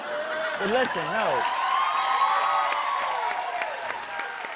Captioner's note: cheers and applause